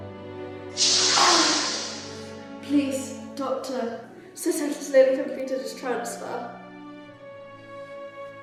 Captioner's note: groaning in pain